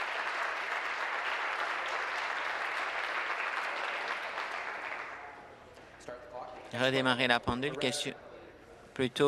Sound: applause

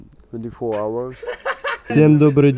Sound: laughs out loud in the background

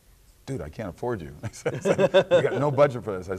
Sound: laughing

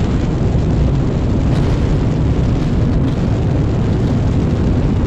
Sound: rockets ignite

